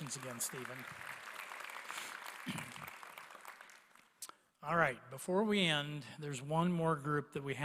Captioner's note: applause